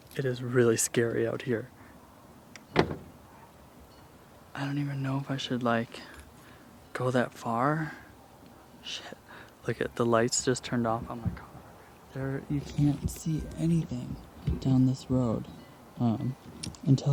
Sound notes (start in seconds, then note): 2.6 car door closing; 4.2 quietly